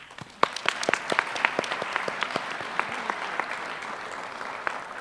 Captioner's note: applause